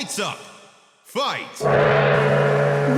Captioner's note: gong